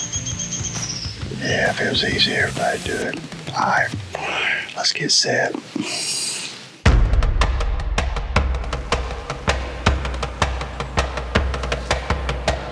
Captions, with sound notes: (birds chirping) Yeah, if it was easy, everybody'd do it. All right, let's get set. (leaves rustling)